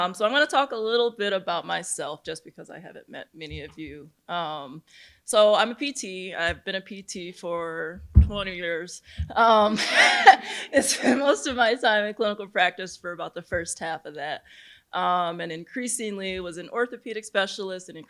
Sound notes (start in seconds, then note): 9.7 laughs